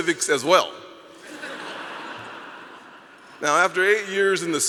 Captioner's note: audience laughing